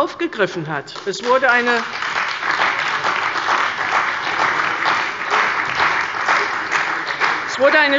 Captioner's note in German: Beifall bei der CDU und dem BÜNDNIS 90/DIE GRÜNEN